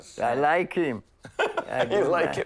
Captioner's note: laughing